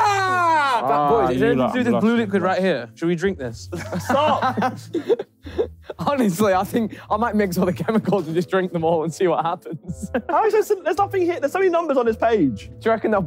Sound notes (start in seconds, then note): 3.7 laughing